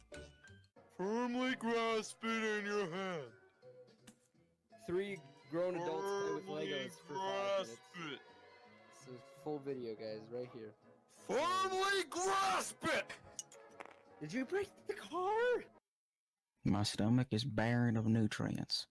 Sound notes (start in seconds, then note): 13.3 clink